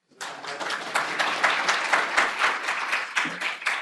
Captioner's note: applause